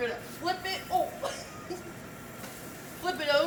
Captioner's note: chuckles